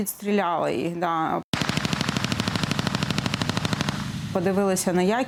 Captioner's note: sound of automatic gunfire